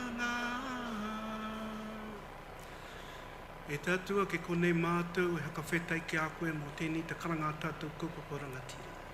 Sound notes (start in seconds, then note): 3.3 speaks in foreign language